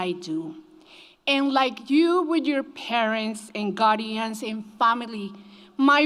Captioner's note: none